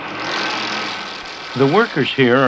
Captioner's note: factory noise